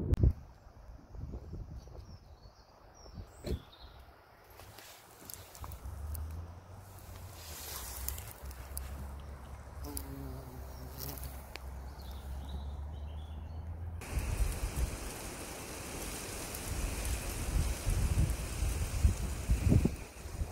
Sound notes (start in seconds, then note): 8.5 bee buzzing; 14.0 leaf rustling sound